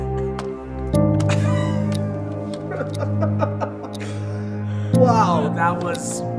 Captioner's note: both laughing